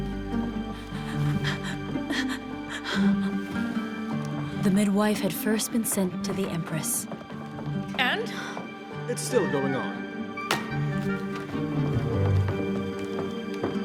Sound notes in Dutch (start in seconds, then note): 0.7 Catherine hijgt; 10.4 voet stampt